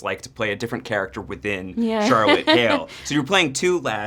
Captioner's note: laughs